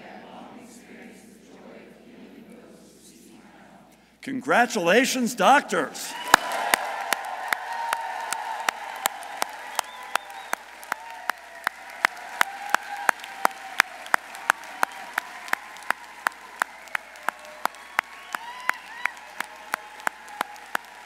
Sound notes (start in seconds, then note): 6.9 audience applauding; 6.9 audience cheering